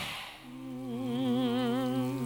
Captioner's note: all humming